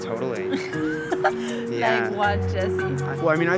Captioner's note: laughs